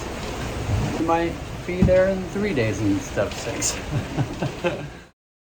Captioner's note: lauhing